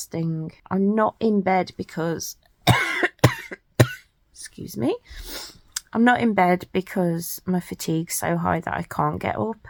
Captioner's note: coughs